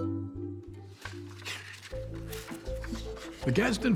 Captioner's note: pages flipping